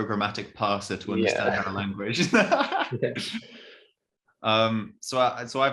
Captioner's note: chuckles